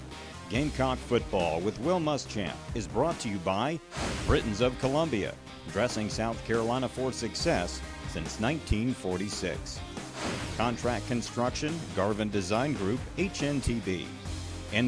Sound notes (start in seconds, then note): 0.6 voiceover